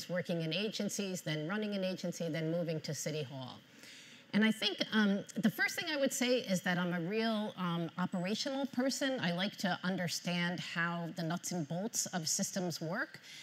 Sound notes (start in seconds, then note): none